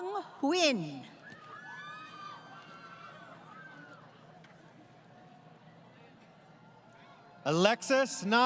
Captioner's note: crowd Cheering